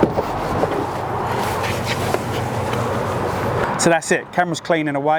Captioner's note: traffic whooshing; clothing rustling